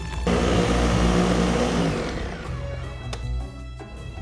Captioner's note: blender whirring